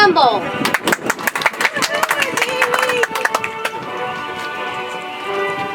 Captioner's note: audience applauds; soft music